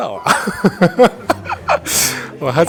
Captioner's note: hahahaha